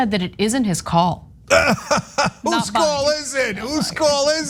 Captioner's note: laugh